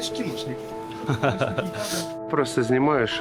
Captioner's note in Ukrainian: сміх